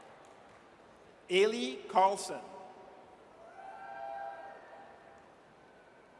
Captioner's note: audience cheers